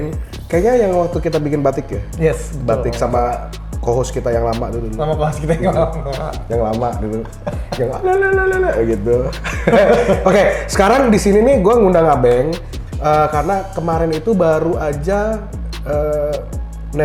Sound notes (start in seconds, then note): 9.6 laugh